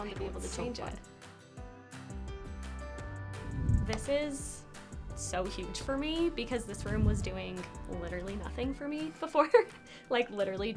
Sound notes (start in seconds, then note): 2.9 upbeat music continues; 3.4 transition whooshes; 9.4 laughs